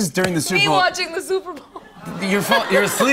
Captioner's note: laughter